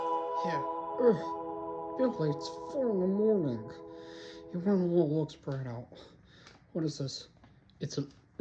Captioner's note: yawning